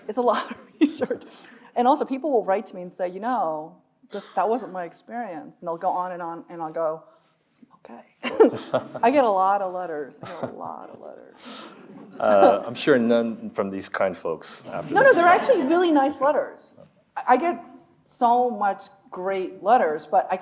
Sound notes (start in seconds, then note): 1.2 chuckles; 8.3 chuckles